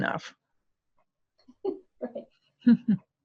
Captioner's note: laughter